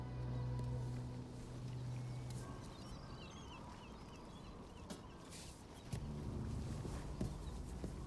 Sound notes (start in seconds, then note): 0.5 birds chirping